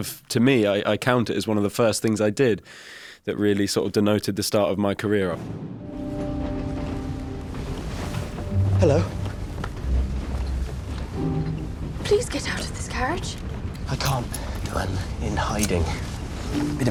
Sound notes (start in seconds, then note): 5.3 logo whooshing; 5.8 gentle music